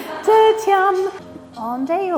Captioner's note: laughs